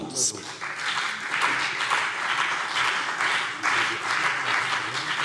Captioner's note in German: Beifall CDU und BÜNDNIS 90/DIE GRÜNEN